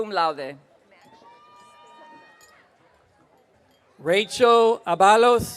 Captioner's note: audience cheering